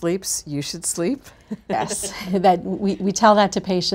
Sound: laughs

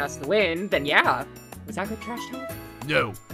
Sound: quietly

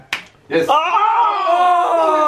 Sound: slapping hang

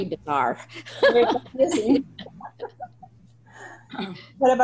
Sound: laughter

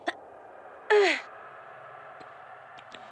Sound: grunting

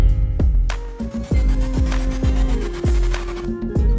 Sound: whirring

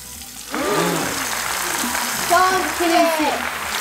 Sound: crowd gasps

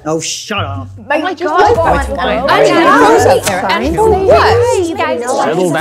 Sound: indistinct chatter

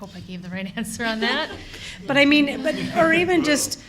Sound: laughter

